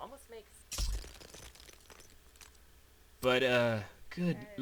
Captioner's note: rubble breaks